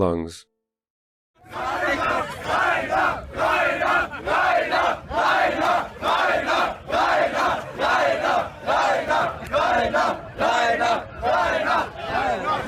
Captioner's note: Fans shouting: Rainer, Rainer, Rainer